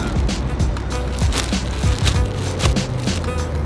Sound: plastic rustling

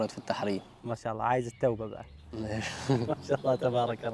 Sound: in Egyptian accent

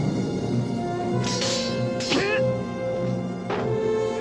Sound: clinking; yelling

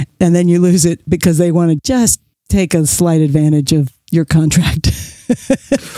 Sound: chuckles

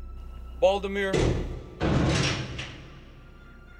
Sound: clanking

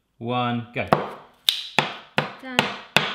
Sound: chops and snaps

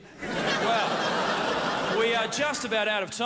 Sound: crowd laughs

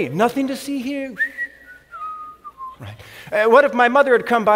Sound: whistling

